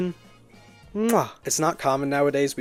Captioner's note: chef’s kiss